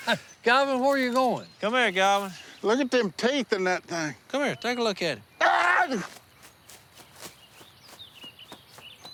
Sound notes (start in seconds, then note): 5.4 screams